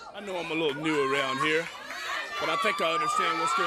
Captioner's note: crowd chatter